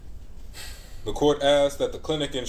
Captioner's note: huffs